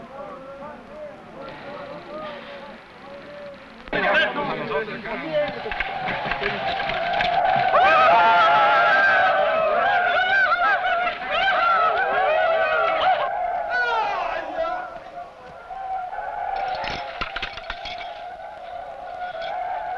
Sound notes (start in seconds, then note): 3.9 men shouting; 6.0 tribal war shouting; 16.5 belt rattling